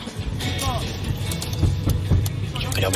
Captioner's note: banging from the boot